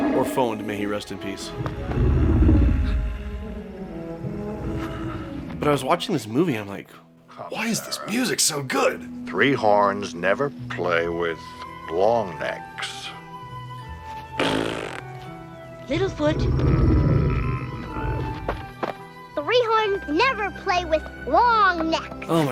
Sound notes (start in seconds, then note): 1.4 paternal growl